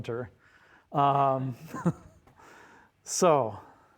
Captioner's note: all chuckling